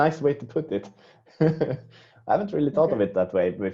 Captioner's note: laughing